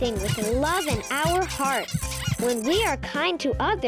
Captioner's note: animals squeaking